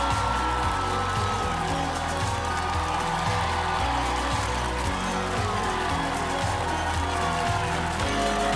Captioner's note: applause